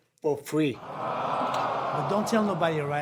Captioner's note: audience awwing